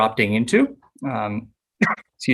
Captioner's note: coughs